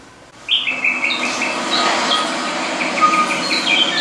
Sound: birds tweeting

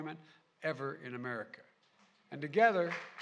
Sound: applause

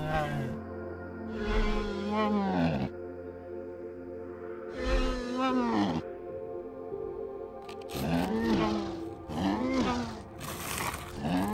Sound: bumpy sounds

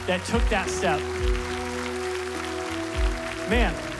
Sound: applause

